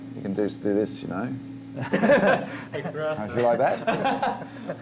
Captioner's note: they laugh